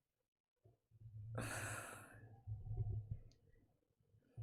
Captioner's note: exhales breath